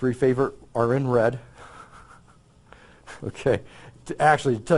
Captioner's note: laughs